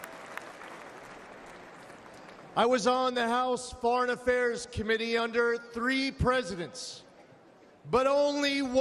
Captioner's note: applause